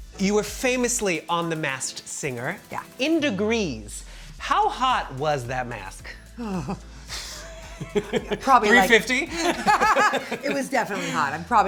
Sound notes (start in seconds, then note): 6.0 shutters; 7.1 laughs; 9.2 both laughing